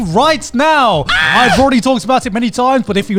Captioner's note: screams